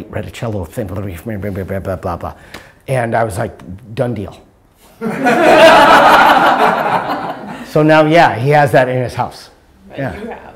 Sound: laughter

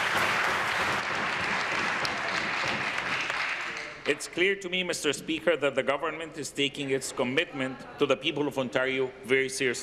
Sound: applause

